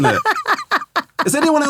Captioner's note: laughing